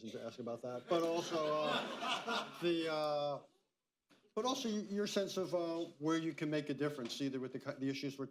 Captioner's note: laughter